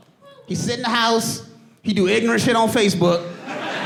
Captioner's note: audience laughing